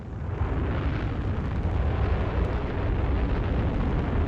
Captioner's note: rocket engines roaring